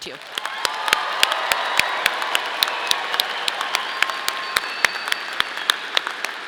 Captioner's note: audience applauding; audience cheering